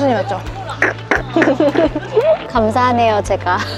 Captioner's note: laughter